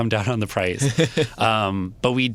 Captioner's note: laughs